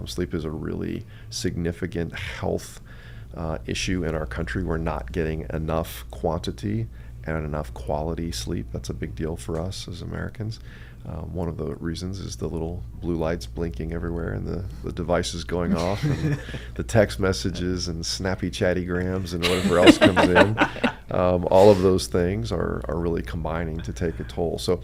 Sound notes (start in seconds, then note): 15.7 both laugh; 19.3 both laugh